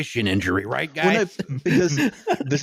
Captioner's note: laughter